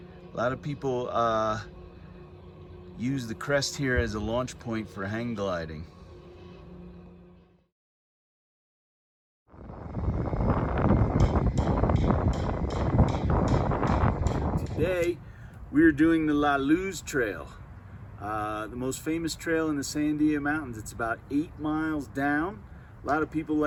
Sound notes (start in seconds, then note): 13.8 wind noise